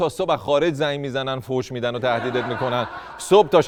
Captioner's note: laughter